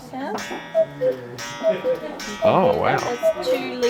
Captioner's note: cuckoo clock dings